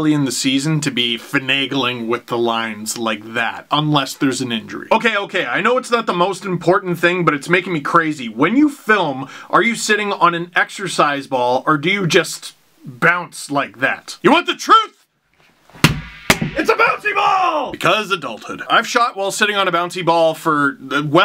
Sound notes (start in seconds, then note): 15.7 smacks it